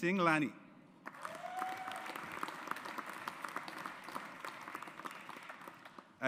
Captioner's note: audience applauds